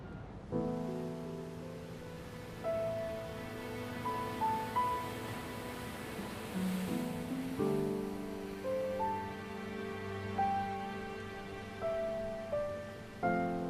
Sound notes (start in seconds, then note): 0.5 solemn music; 0.5 waves splashing